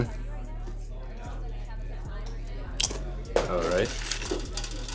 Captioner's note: people chattering